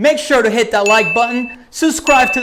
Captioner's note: bell rings